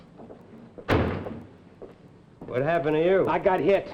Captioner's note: door thuds